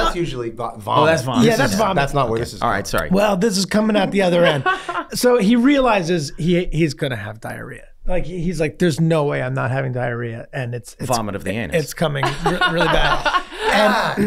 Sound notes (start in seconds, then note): 4.4 Meg laughing